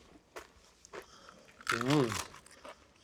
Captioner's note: crunching loudly